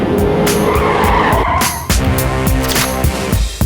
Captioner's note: cars peeling out; intense music